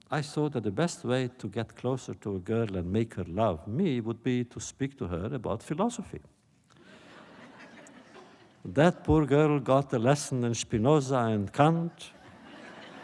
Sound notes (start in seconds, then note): 6.8 laughter